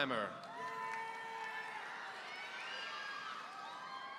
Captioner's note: audience cheering